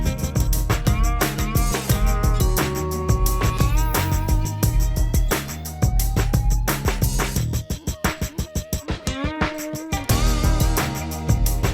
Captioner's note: sound of kiln and oil quench